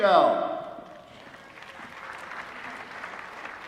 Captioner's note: applause